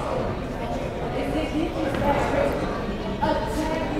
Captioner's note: speaking faintly